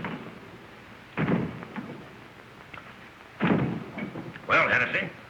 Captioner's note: hitting door